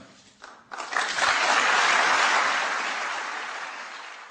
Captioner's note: applause